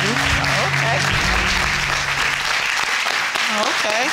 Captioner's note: audience applauding